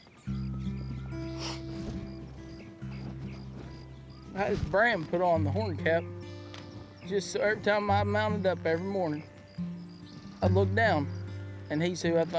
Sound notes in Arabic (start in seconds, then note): 0.9 شهقة; 4.4 بدموع